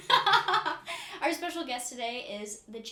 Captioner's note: laughing